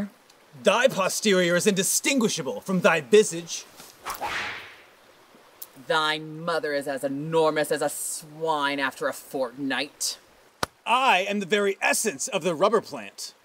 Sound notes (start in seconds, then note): 4.0 whip crack